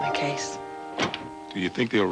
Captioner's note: car hood slams closed